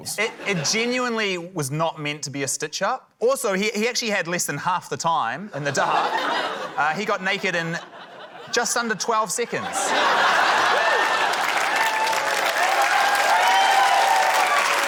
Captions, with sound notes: - It genuinely was not meant to be a stitch-up. Also, he actually had less than half the timein the dark. He got naked in just under 12 seconds. (LAUGHTER) (CHEERING, APPLAUSE)